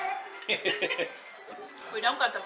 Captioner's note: laughing